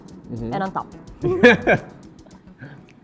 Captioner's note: laughs